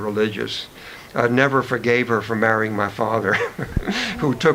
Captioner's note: chuckles